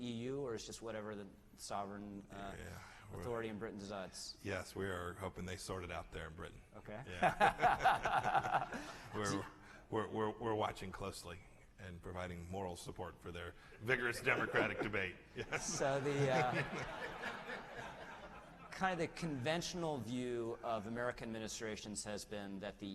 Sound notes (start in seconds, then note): 7.2 laughter; 15.3 laughter